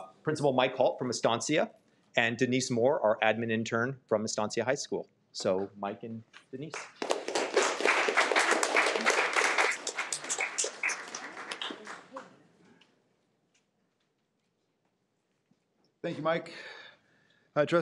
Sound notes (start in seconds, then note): 6.6 audience clapping